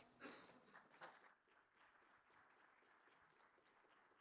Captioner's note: clapping